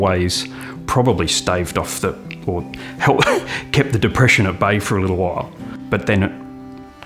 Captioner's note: chuckle